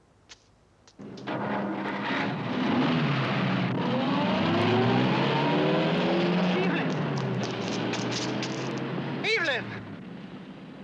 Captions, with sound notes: (car engine starts) Evelyn! Evelyn!